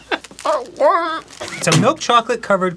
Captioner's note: arin, crying